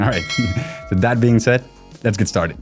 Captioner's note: chuckles